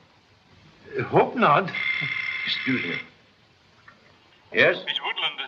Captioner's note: phone rings